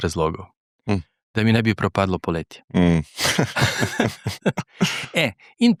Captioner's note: laughs